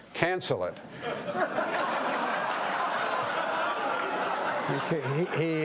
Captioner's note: audience laughing